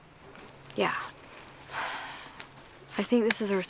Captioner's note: exhales